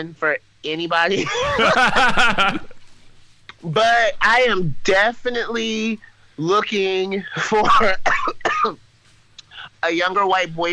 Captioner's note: laughs